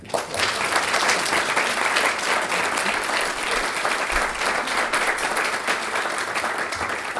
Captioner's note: applause